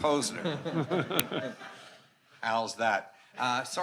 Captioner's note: attendees laughing